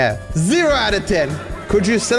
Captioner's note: voice echoes